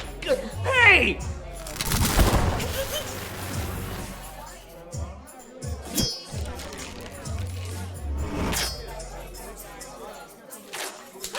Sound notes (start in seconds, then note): 1.8 electricity crackling; 8.5 fabric ripping